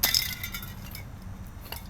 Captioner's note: spray can clangs